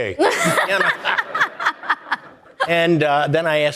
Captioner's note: audience laughing